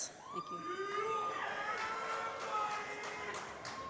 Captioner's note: applause